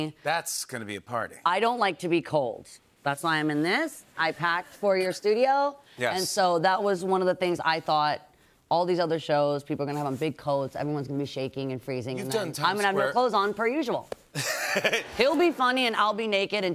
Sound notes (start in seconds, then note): 14.3 laughter